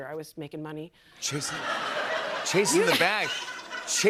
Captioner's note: laughter